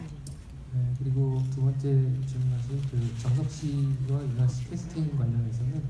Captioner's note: speaking in foreign language